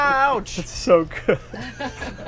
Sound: laughing; laughter

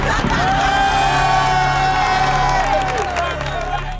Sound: applause

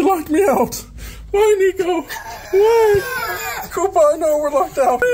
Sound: Koopa yawns

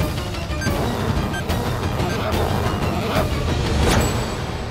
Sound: zipping

